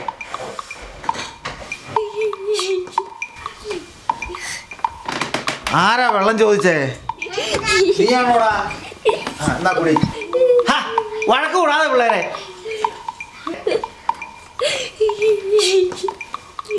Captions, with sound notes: [kids giggle] Who asked for water? [kids giggle] Was it you? Here, drink. Ha! Stop fighting, kids! [kids continue giggling]